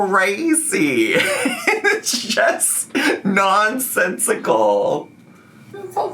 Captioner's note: laughing